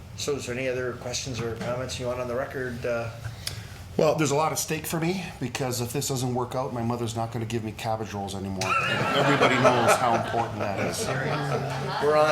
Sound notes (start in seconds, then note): 8.6 crowd laughing